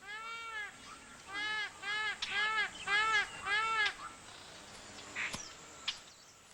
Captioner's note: graznidos